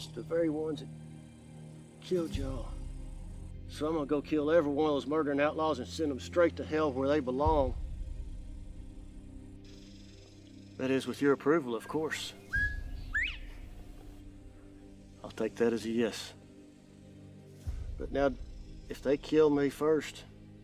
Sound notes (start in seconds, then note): 11.8 bird whistling